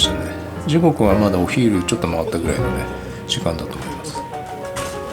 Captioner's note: laughs